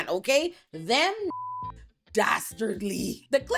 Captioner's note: beep